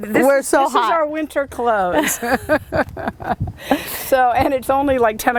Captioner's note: laughs